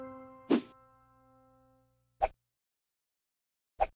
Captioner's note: note chimes; logo whooshes